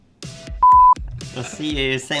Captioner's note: beep